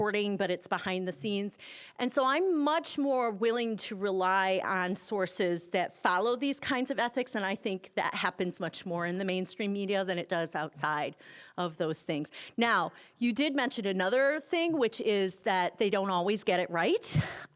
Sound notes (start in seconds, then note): none